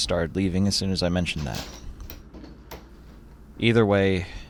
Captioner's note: door repeatedly opening and closing